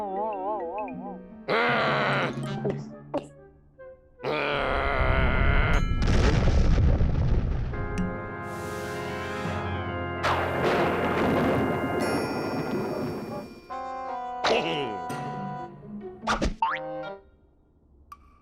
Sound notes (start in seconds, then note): 0.6 growling; 1.5 gulps; 3.4 growls; 5.9 deep rumble and explosion; 10.2 thunder rumbles; 13.6 chuckles